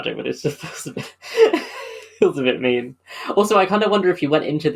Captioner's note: laughing